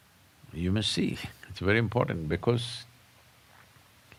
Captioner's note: none